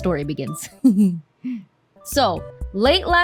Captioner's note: chuckle